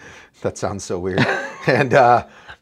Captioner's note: laughs